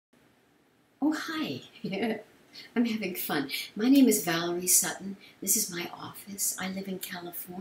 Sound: giggles

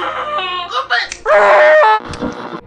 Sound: creepy music; muffled cry of pain

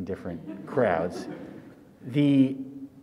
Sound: audience laughs

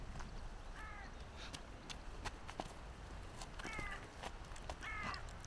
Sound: footsteps crunching

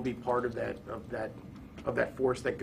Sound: stammering

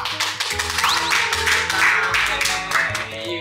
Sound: whoo~!~!!!

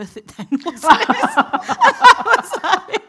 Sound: everyone laughing

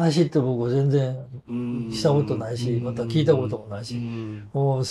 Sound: laughs

